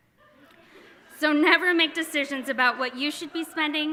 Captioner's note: audience laughing